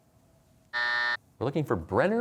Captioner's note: buzzer sounds